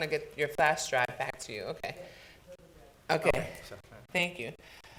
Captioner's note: woman talks quietly